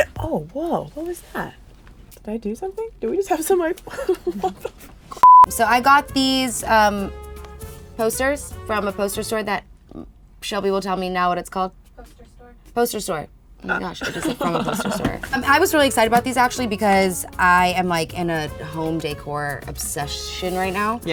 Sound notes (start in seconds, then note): 5.2 beep; 13.7 laughing